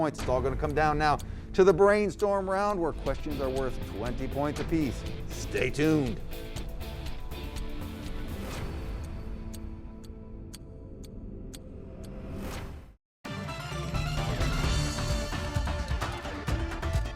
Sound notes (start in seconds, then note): 6.8 upbeat music; 10.0 clock ticking; 13.2 upbeat music